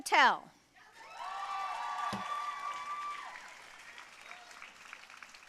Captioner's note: audience cheering and applauding